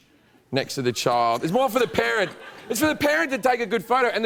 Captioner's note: laughter